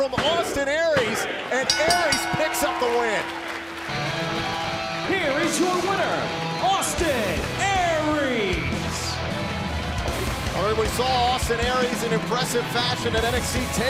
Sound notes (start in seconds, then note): 1.6 bell ringing; 10.6 cheers and applause